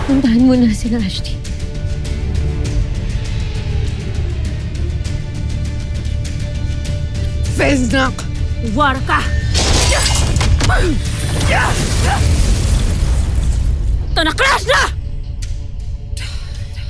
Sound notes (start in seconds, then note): 2.2 epic music playing; 9.5 swords clang & thumps; 10.6 grunts & groans; 11.1 evil energy whoosh & crackle; 12.3 growls & infernal blast; 16.0 eerie music playing